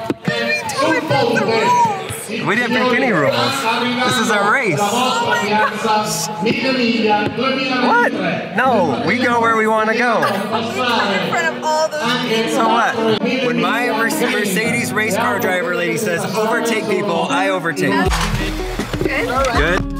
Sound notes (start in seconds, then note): 6.2 announcer speaking in Italian